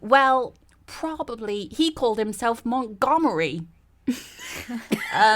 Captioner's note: all laugh